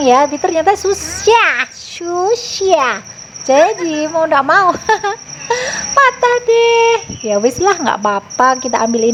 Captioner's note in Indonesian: tertawa